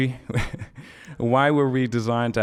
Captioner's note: laughing